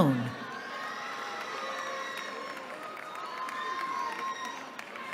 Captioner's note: applause